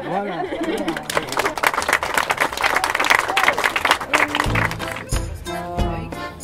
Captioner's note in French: applaudissements